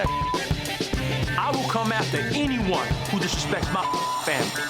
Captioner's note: beep; beep